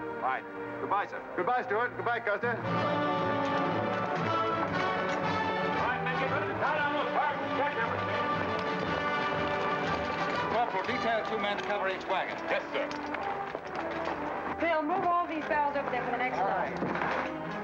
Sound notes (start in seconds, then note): 2.8 upbeat music; 5.6 men chattering